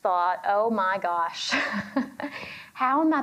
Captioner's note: chuckles